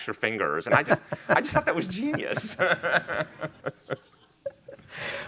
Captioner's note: laughing